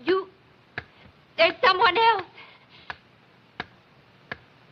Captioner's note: ticking Continues